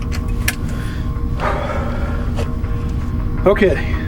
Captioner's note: Hawk sighs